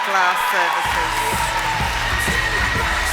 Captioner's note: cheering and applause